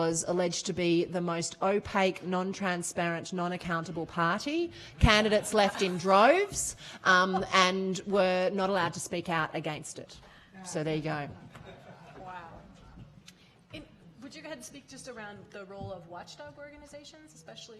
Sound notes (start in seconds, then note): 5.0 laughing